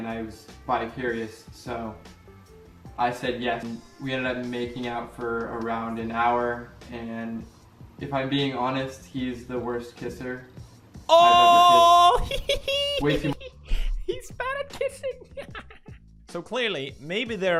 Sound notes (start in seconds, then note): 11.1 ahhhhhh; 11.1 school boi laugh